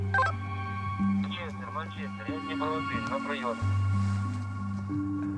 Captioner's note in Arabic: الصوت المنطوق الأوكراني